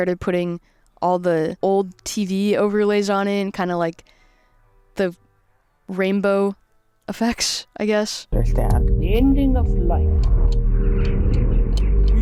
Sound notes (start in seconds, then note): 10.2 clock ticks; 11.1 birds twitter